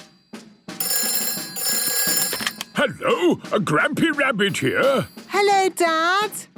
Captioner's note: phone ringing